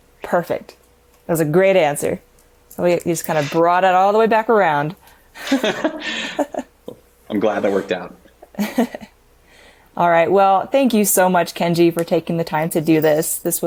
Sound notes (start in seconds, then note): 5.4 both laughing